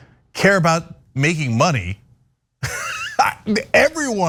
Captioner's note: laugh